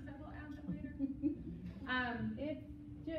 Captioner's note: laughs